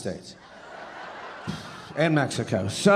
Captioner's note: audience laughing